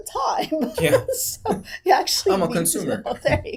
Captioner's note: laughing